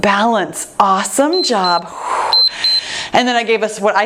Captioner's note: timer beeps